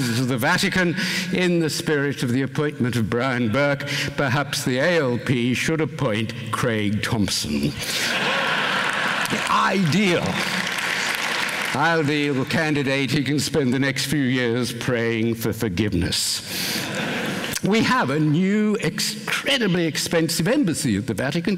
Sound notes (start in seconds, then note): 8.0 laughter, applause